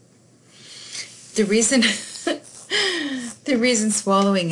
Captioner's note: chuckles